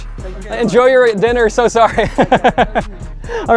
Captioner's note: laughs